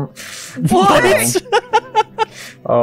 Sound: laughs

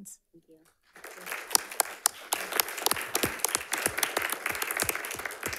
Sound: audience applauds

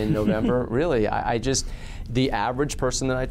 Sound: laughs

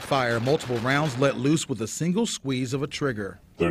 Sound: sound of gunfire

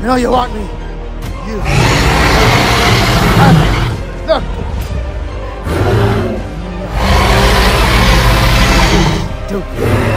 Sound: albertosaurus roaring

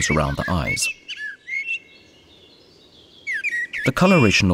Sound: sounds of nature

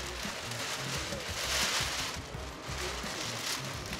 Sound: paper crumpling

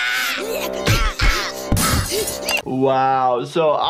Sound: dishes shattering

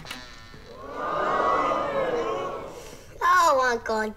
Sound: crowd

